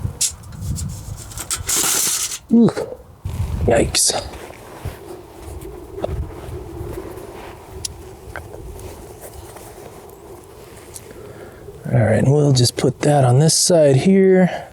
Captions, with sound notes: [Crashing Sound] Yikes. All right we'll just put that on this side here.